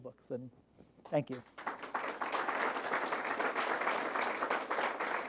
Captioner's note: applause